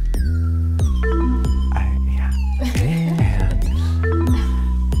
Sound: techno music; techno bleeping

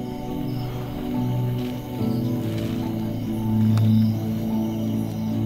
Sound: crickets chirping

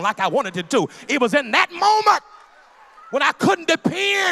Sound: loud crowd agreement

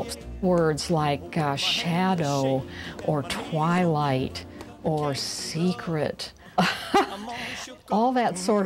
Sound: laughs

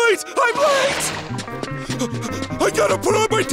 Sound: panting

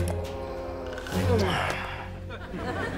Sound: grunting

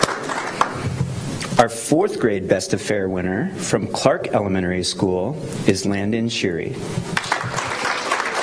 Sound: applause

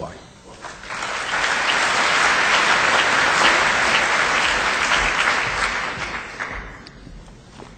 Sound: audience applause

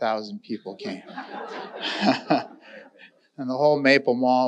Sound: audience laughing

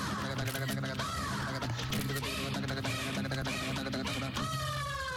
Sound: camera click

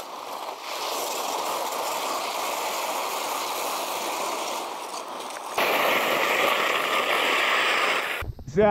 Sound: sound of ice

